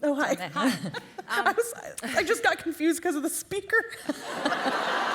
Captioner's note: laugher